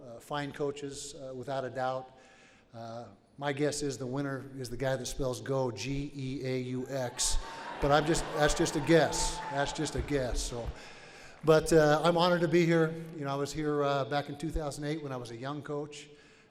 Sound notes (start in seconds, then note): 7.2 audience laughs